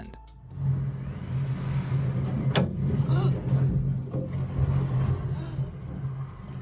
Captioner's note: woman gasps; wind whirring